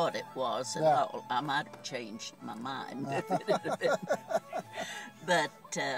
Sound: laughs

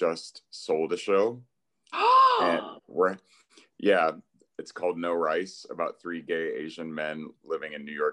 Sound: gasp

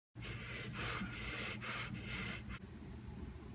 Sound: heavy breathing

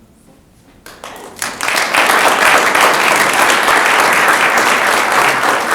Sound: audience applauding

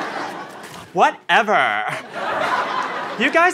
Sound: valley girl voice

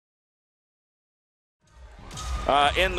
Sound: audience cheering

